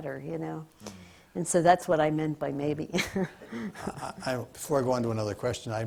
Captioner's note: laughs